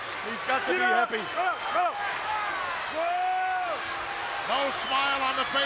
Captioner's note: Mr. Fuji speaks Japanese